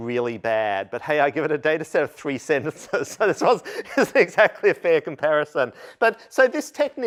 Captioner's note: laughter